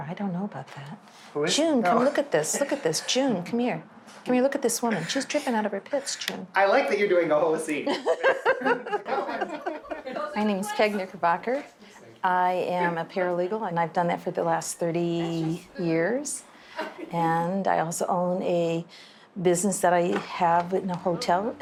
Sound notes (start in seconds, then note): 7.8 laughing